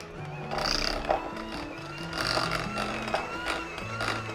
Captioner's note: mixer whirs